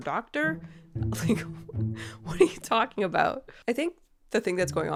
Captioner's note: laughing